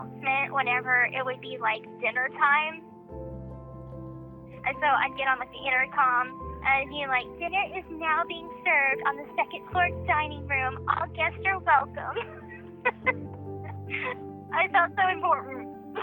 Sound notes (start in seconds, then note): 12.1 laughs